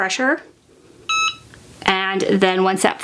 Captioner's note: machine beeping